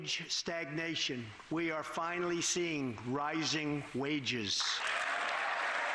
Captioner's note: applause